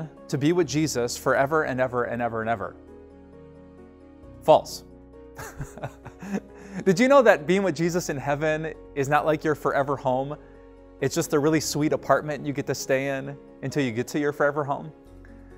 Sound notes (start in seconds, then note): 5.4 laughs